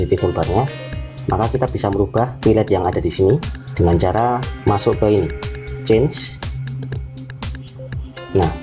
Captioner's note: click